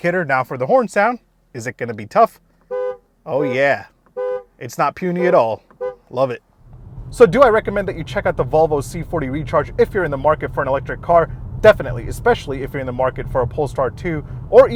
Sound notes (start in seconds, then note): 4.1 car horn beeps a few times